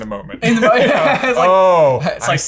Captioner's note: laughing